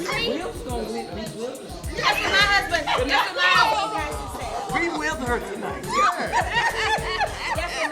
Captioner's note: laughing